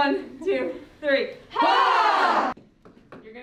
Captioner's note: all groaning